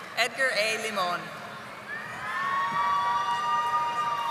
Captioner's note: audience applauding